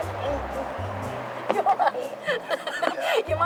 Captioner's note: laughing